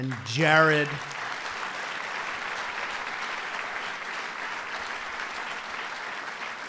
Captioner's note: applause